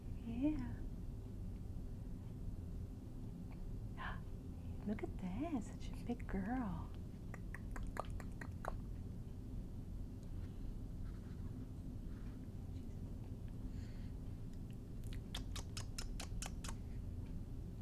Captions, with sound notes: Yeah. Ah! Look at this, such a big girl. [Tongue clicking sounds] [Kissing sounds]